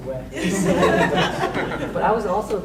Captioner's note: laughing drowns out speaker